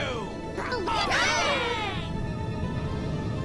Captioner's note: cheering